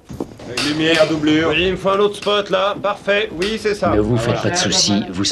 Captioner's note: reporters clamoring